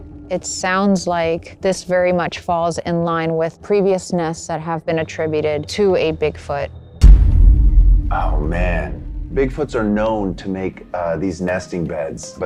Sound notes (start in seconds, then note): 7.0 boom sound effect